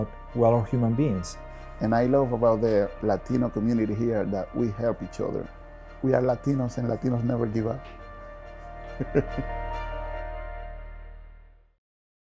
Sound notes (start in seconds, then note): 8.6 laughs